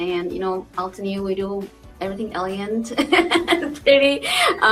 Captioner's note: laughs